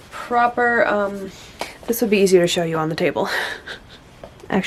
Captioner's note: laughs softly